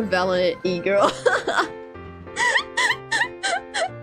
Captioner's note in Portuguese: risada